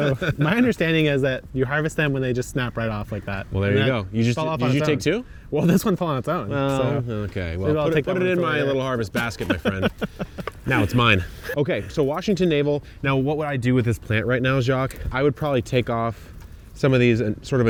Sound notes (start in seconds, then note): 9.7 laughs